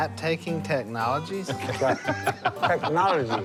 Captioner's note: laughter